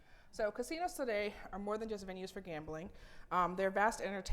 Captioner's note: none